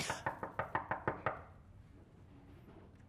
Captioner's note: knocking